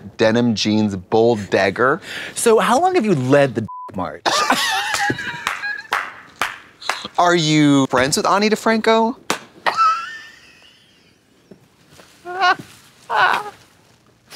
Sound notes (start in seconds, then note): 3.6 beep; 4.3 blonde Women hee-haw; 5.3 Trixie claps